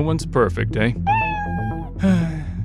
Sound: meow

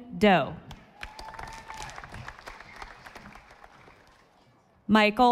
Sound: audience applauding

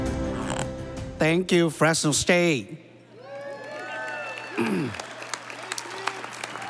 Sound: audience cheering

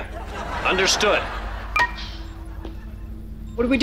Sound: beeping

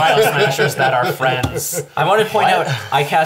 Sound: all laugh

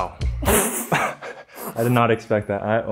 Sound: laughs

